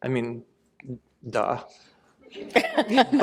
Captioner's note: laughter